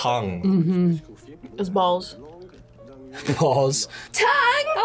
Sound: laughs

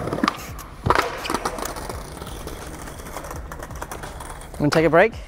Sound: skateboard clattering; skateboard rolling

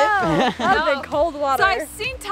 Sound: laughs

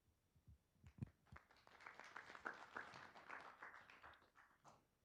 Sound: group clapping

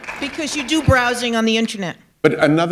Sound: applause

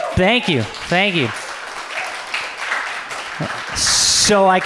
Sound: audience applauds

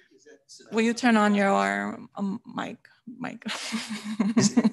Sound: laughs

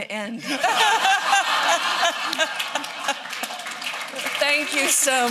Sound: laughter

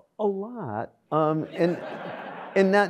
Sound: audience laughs

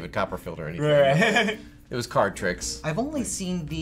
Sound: laughs

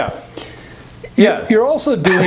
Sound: laughs

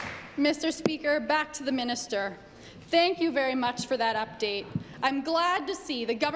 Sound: applause

